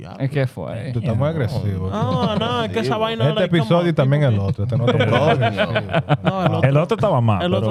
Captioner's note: laughing; speaking In Foreign Language